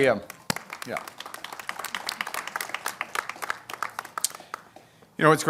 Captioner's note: applause